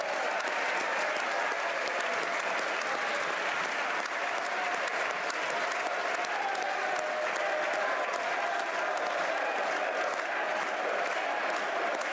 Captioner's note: cheering & Applause